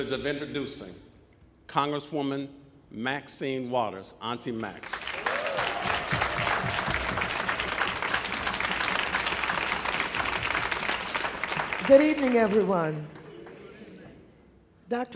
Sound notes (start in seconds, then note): 4.8 audience applauding; 5.0 audience cheering